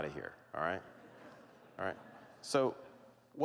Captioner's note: laughter